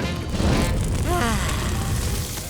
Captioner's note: sighing